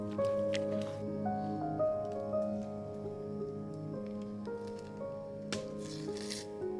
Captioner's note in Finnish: tuli räiskyy nuotiossa